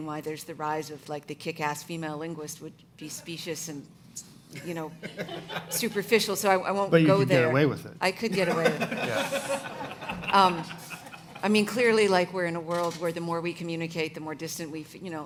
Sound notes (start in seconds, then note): 8.4 audience laughing